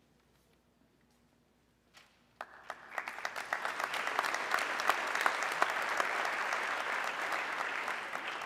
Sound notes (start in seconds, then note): 2.4 audience clapping